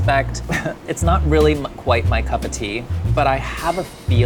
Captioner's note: laughing